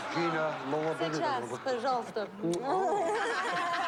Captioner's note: speaking russian